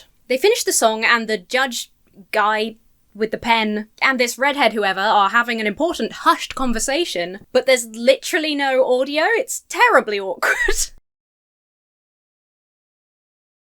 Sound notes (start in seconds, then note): 10.4 chuckles